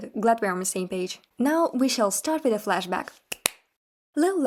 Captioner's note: clap clap